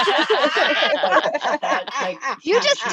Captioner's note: laughter